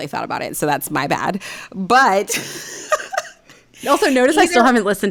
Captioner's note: laughing